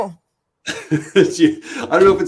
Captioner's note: laughter